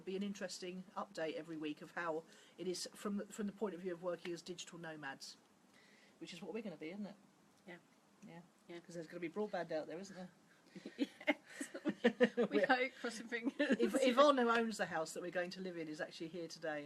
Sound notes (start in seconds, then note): 10.7 laughs